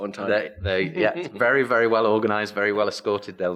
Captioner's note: laughs